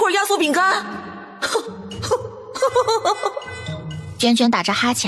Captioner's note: sarcastic laugh